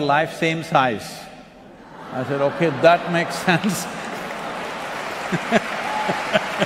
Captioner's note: few laugh